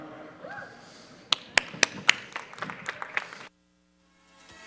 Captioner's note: audience applauds